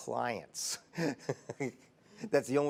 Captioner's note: laughs